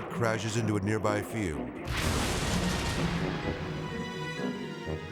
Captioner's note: jet crashes